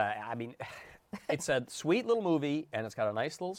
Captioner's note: sighs